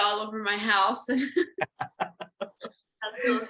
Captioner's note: laughter